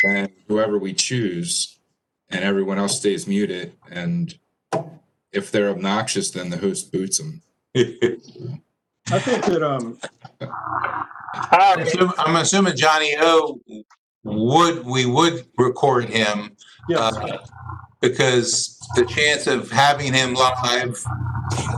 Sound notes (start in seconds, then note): 7.8 laughter